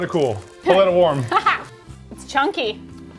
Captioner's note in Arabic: تضحك